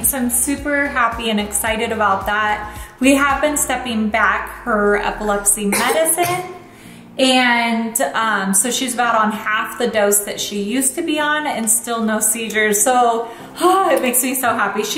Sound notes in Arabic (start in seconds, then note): 5.6 سعال